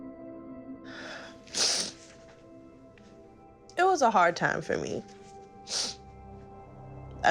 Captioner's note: sniffling